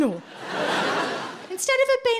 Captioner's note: audience laughing